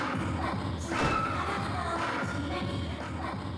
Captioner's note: crash